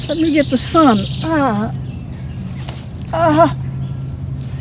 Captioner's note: whimpering